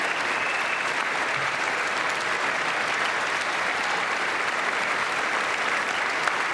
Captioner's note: applause